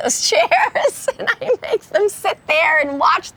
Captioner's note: Ellen laughing